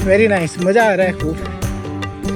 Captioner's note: speaking foreign language